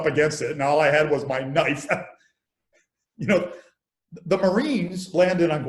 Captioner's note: laughs